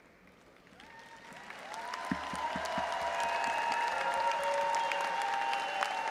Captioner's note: audience applauding and cheering